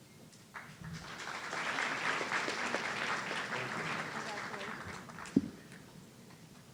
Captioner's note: audience applauding